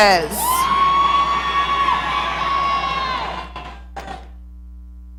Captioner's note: audience cheering